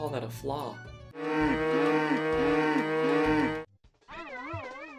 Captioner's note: extreme mooing commences